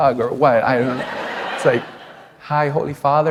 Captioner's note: laughter